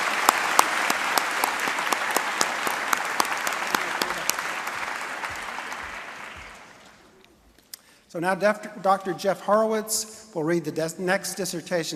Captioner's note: applause and cheering